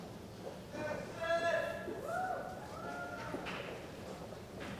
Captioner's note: cheering